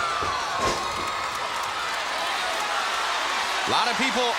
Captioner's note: crowd cheering